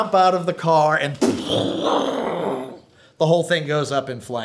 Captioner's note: imitates explosion